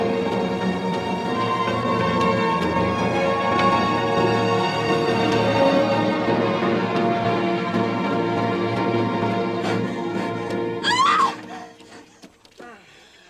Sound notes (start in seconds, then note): 10.8 Rachel screaming